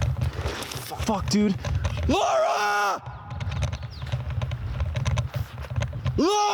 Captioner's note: screaming